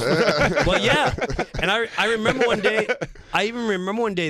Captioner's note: laughter